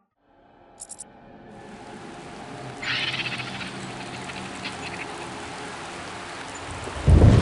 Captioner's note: quiet rustle of rain; rolling thunder and howling off in the distance